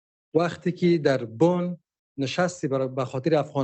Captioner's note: speaking dari